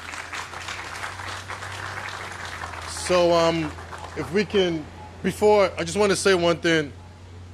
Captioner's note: applause